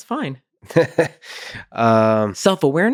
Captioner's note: laughing